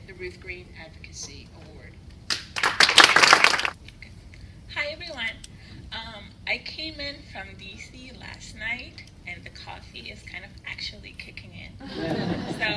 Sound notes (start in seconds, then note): 2.3 applause; 11.8 laughter